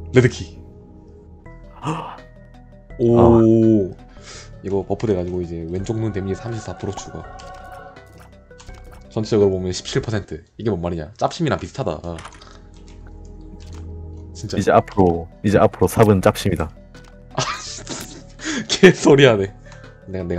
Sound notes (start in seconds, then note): 17.4 laughs